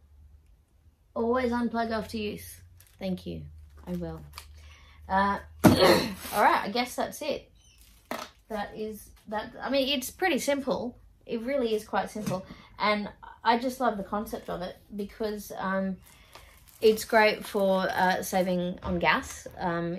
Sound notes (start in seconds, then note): 5.6 thud